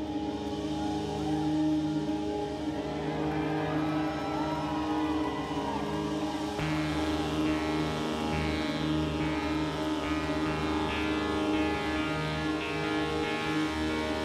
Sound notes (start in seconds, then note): 2.6 audience cheering